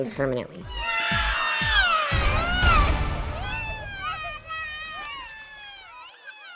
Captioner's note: dramatic music; children screaming